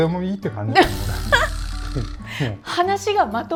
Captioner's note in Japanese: 笑い